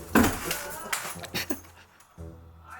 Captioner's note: scream